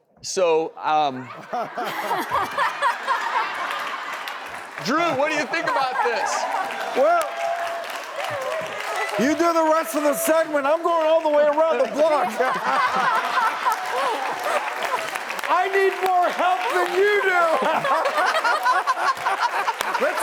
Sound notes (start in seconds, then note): 1.1 audience laughs; 12.8 audience laughs; 17.6 audience laughs